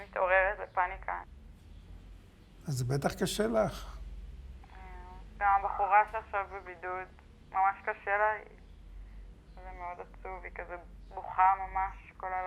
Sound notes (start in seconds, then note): 2.9 speaking foreign language